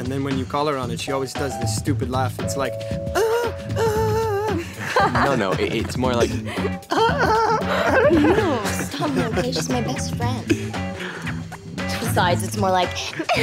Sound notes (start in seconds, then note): 2.8 impersonating Adena's laughter; 4.6 others laugh; 6.4 impersonating Adena's laugh in higher pitch; 8.1 others snigger